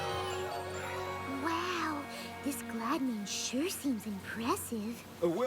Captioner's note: cheering